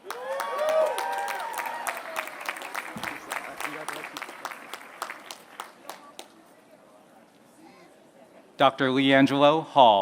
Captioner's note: applause